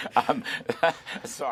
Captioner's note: laughter